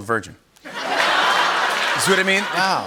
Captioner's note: laughter